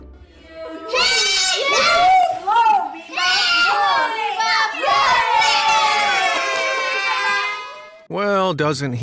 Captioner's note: screams